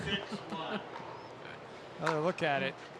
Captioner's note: laughing